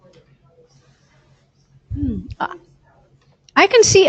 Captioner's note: woman mumbling